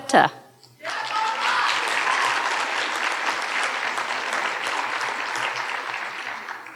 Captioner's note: audience cheering and applauding